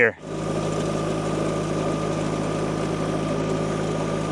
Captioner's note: machinery rumbles